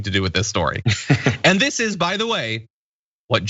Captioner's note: laugh